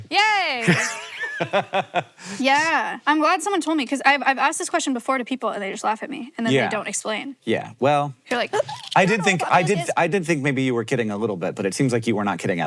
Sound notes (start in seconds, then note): 0.6 Hank laughs; 8.5 gasps